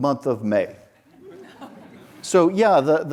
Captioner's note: audience laughs